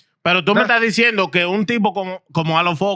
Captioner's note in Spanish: Hablando en idioma extranjero